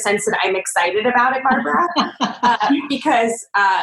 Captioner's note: laughing